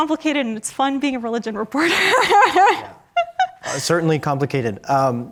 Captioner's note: laughs